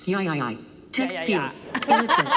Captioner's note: laughter